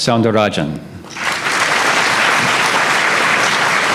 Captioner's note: applause